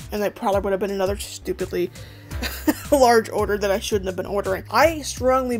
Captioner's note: laughs